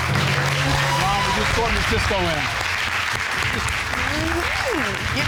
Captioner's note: audience applauding